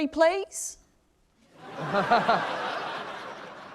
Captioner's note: laughter